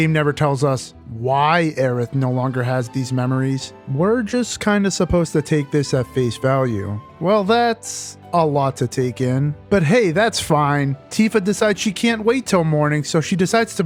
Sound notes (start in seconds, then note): none